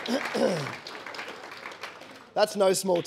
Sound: audience applauding

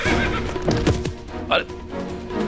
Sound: horse stomping

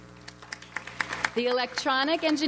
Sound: audience applauds

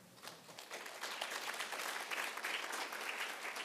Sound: applauds

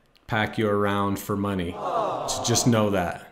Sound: exclaims

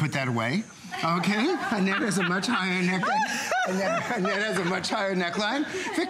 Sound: laughter

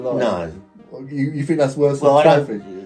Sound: none

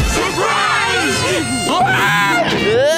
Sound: screaming

